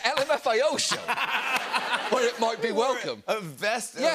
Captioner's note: laughter